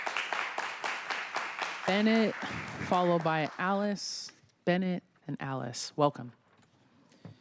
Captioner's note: applause